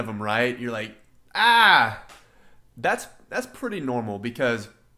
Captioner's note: yelling